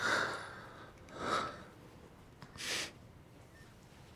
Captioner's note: Florio exhales; Florio breathes heavily